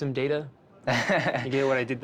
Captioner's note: laughs